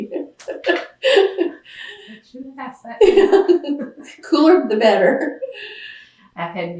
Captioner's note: laughs